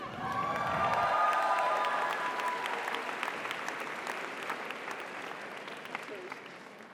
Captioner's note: audience cheers; audience applauds